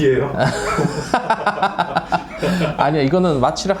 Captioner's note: murmurs of discontent